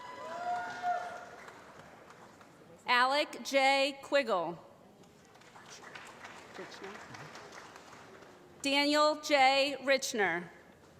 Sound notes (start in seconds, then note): 0.2 applause; 5.2 applause